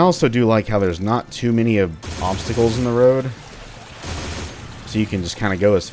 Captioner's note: 30 Cal pew pew